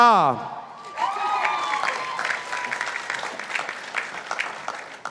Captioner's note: participants applauding